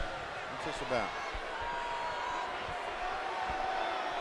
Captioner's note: audience cheering